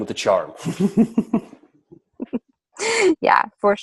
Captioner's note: chuckles; laughs